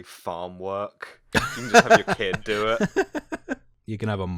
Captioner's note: laughter